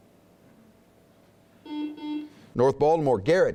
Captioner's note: buzzing